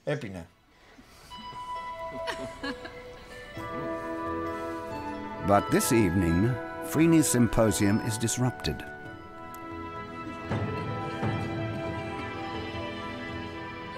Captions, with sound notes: (dramatic music) (woman laughs) But this evening, Phryne's symposium is disrupted.